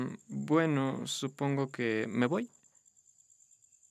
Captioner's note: none